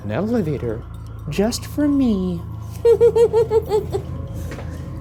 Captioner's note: laughs